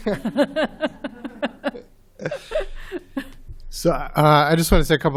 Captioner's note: laughter